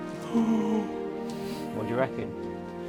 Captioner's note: gasps